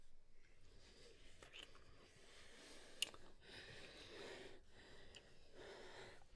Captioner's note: both continue breathing heavily